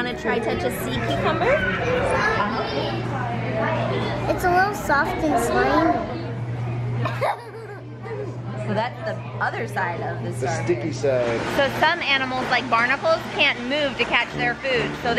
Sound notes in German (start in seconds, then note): 7.0 Lachen